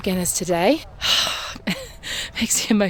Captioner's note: sighs